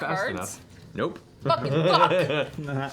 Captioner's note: chuckles